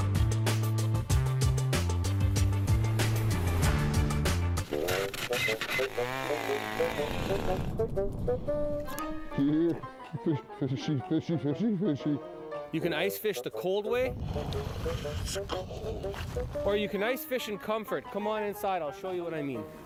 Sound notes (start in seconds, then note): 7.4 auger growls; 12.2 chattering